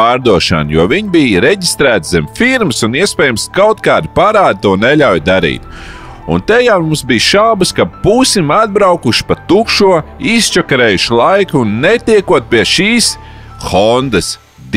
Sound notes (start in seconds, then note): none